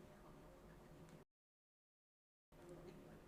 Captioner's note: silence